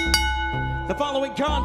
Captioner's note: bell ringing